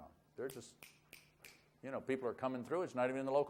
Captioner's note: snaps fingers